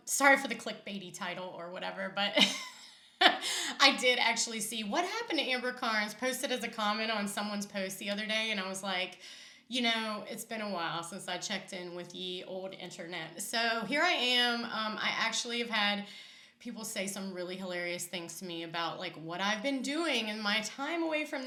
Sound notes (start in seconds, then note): 3.2 laughs